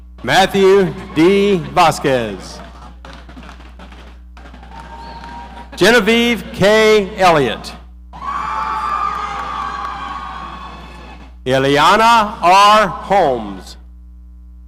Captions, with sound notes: Matthew D. Vasquez. (audience applauding) Genevieve K. Elliot. (audience cheering) Eliana R. Holmes.